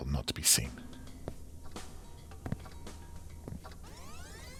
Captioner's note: radio playing